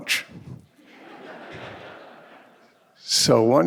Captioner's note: audience laughing